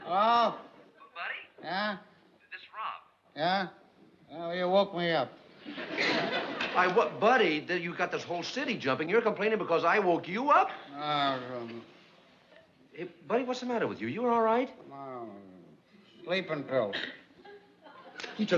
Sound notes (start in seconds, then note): 0.6 on phone; 2.5 on phone; 11.2 mumbles